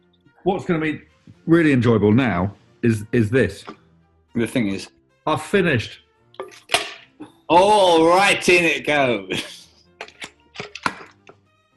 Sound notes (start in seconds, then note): 6.6 clang